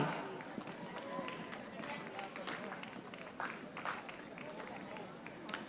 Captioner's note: audience applauding